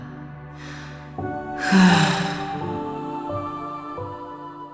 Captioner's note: sigh